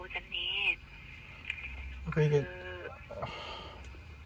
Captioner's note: sigh